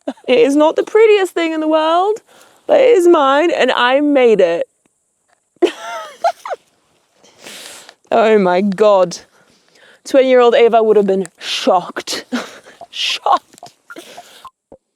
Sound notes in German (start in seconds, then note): 0.0 lacht; 5.6 kichert